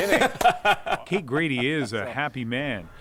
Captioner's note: laughs